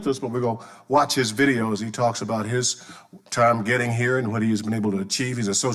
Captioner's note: none